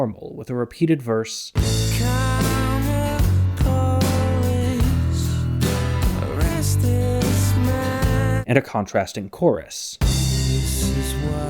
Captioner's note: bang